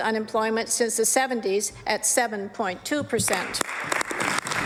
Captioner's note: applause